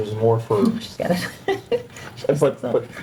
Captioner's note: member laughing